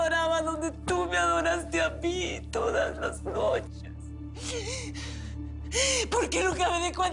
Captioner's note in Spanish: Solloza